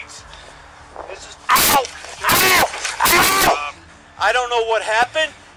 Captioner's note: screaming